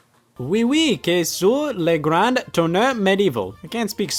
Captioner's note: speaking in foreign language